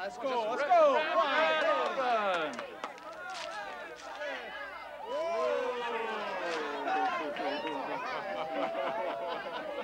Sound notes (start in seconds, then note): 7.9 laughing